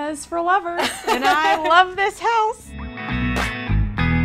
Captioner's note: laughing